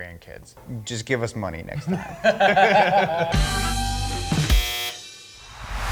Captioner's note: laughing